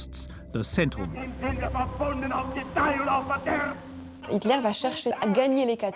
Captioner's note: speaking foreign language